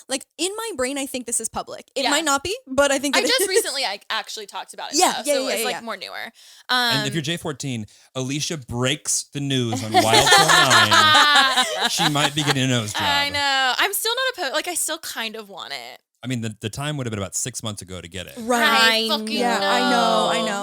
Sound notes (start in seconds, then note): 9.7 all laughing